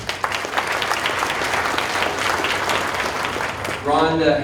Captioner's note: audience applauding